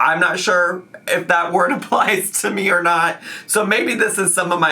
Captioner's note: laughing